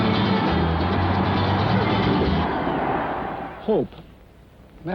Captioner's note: cheering